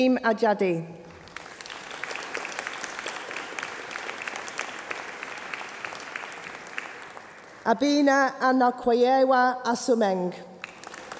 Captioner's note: applause